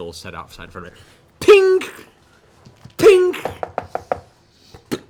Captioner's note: metal clanging